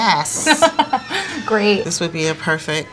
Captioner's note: chuckling